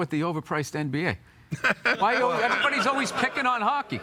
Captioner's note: all laughing